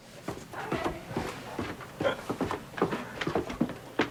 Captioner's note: footsteps